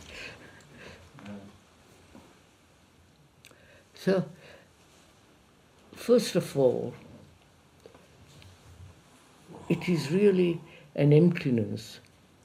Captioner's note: laughs